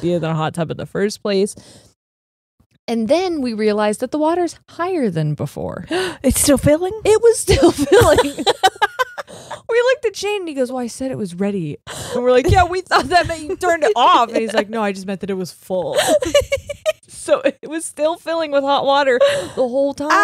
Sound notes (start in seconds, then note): 6.0 gasps; 7.5 both laughing; 15.9 laughs